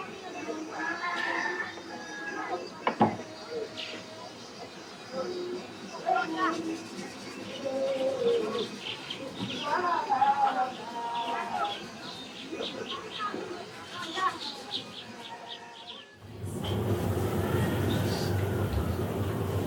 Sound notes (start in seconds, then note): 0.8 rooster crowing